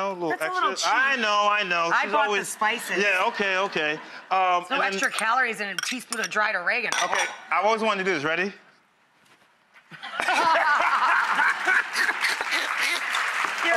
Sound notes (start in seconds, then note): 2.6 audience laughs; 9.9 laughter; 10.2 audience applause